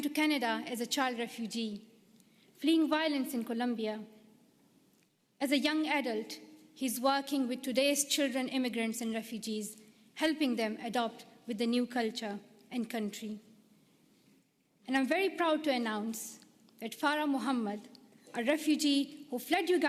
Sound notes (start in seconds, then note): none